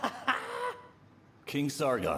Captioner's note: Sargon laughing